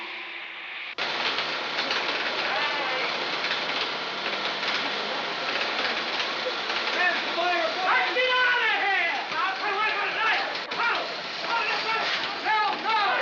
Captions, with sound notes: Let's get out of here! [yelling]